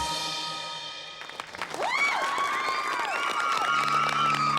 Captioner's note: applause and cheering